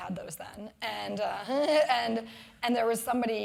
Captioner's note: laugh